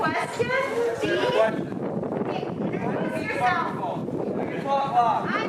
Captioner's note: Dean chattering